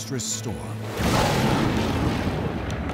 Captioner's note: thunderclap